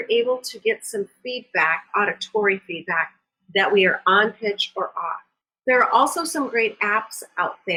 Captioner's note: auditory feedback